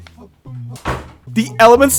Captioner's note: door slamming everywhere wtf